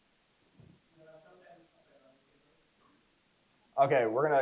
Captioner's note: crowd member speaks softly